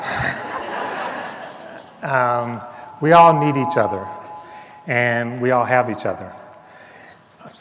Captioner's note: laughter